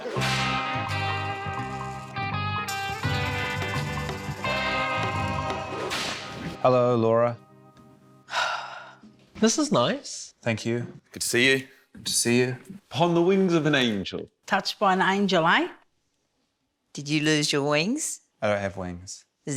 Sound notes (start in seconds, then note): 0.0 quirky music; 8.3 sighs